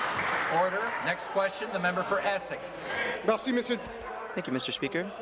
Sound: applause

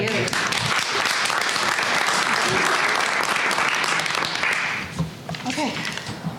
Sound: applause

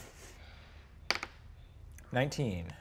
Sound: die taps table

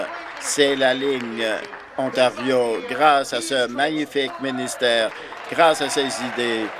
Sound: applause

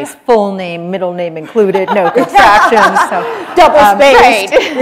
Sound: laughter

